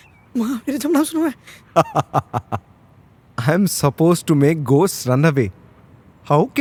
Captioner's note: laughter